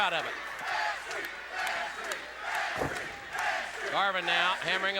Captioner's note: crowd chatter